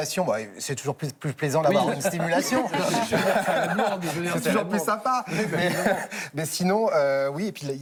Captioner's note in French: rires